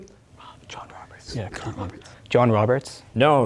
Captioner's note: whispering